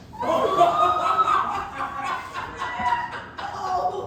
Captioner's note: audience laughing